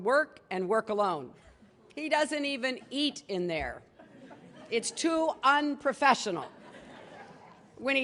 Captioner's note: laughter